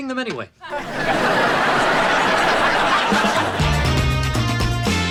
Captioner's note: audience laughing